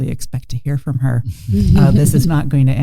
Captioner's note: chuckling